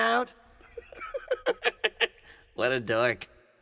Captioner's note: snickering